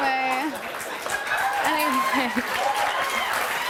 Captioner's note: laughing; cheers and applause